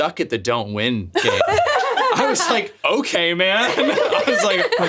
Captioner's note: laughs